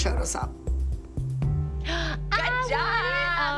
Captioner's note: gasps